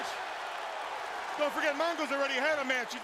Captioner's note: crowd cheering